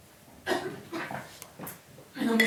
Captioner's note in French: tousse